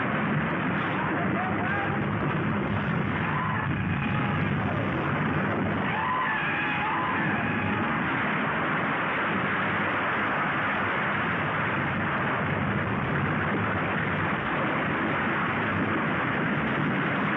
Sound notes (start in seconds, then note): 1.1 man screaming